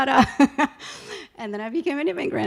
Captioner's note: laughing